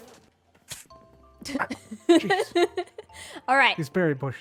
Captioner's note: laughs